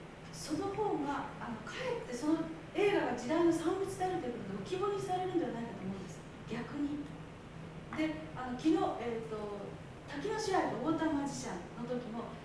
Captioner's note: speaking Japanes